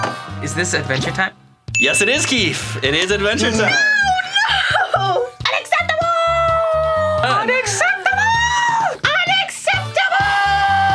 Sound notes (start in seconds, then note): 1.7 bell dings; 5.0 chuckles